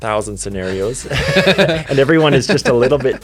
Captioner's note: both laugh